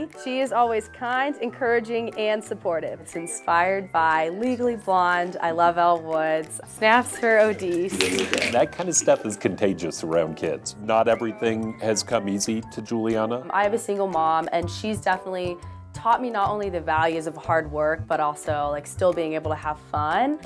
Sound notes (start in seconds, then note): 7.8 snapping